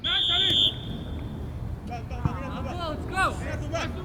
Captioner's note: whistle